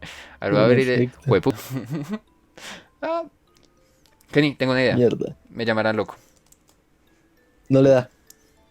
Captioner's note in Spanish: Risas